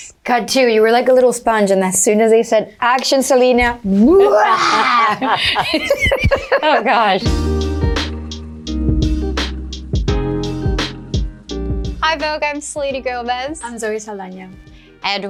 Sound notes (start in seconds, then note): 4.0 Zoe roars; 4.1 laughs; 8.0 gentle music